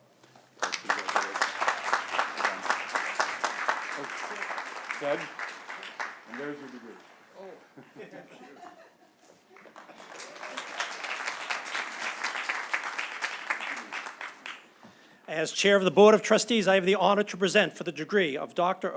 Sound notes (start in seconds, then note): 6.2 applause; 10.5 laughter; 14.0 applause